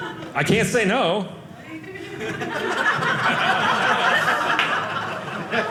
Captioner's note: audience laughing